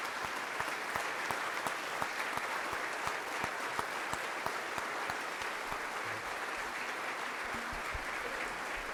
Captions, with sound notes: - Sir, thank you. [claps] [audience applause]